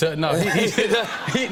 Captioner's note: laughter